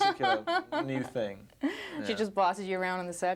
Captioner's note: reporter laughing